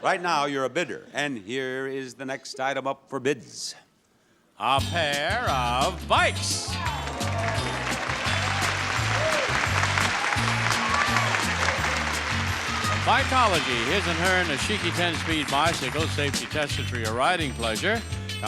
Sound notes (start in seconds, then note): 6.8 audience applauds; 7.0 smooth music